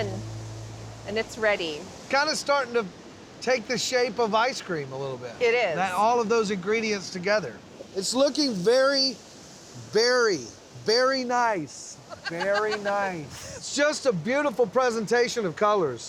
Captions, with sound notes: AND IT'S READY. KIND OF STARTING TO TAKE THE SHAPE OF ICE CREAM A LITTLE BIT. IT IS. ALL OF THOSE INGREDIENTS TOGETHER. IT'S LOOKING VERY, VERY... VERY NICE. [LAUGHING] VERY NICE. IT'S JUST A BEAUTIFUL PRESENTATION OF COLORS.